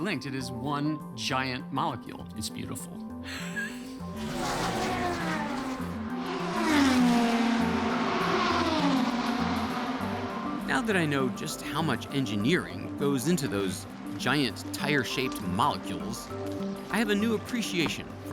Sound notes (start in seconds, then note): 3.3 laughs; 4.3 engines roaring